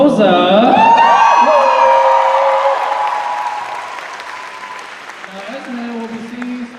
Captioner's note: cheers and applause